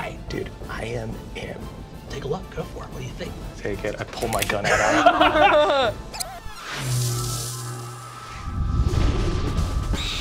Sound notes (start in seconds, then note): 4.6 laughing; 6.6 video scratching; 6.7 mystical chimes